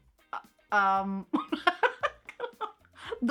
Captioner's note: laughs